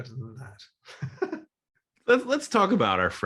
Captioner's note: delighted laugh